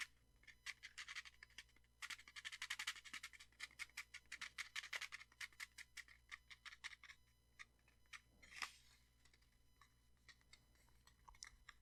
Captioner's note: tea shaking sounds and tapping sounds